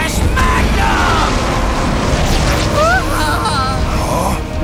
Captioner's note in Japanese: 叫び声